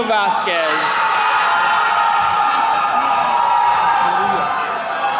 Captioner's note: attendees cheering